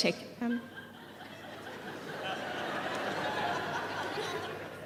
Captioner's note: audience laughing